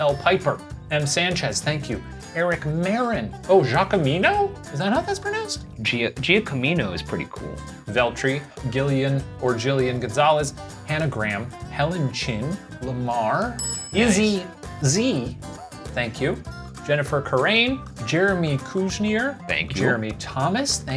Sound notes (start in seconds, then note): 13.6 bell ringing